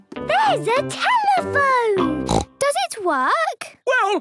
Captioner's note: snorts